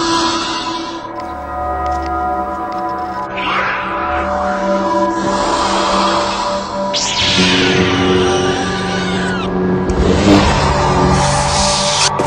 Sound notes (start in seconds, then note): 0.2 roaring Continues; 6.7 Lightsaber noise